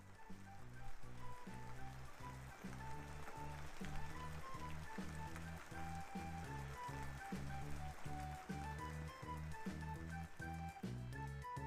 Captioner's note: sound of drizzle raindrops